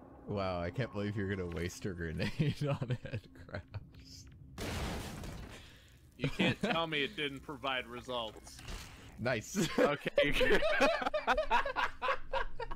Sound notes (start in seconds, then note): 2.2 laughs; 4.6 boom; 6.2 chuckles; 9.5 both laughing